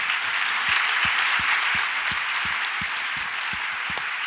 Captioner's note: audience applauds